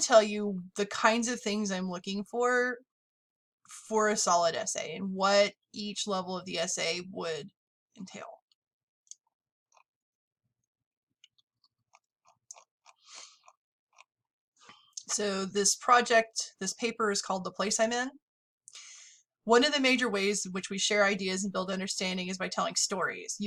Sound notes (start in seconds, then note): 8.9 pause